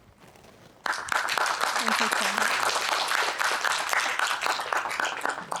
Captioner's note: applause